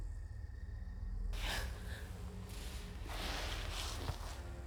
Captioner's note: Linda gasping; soft tense orchestral music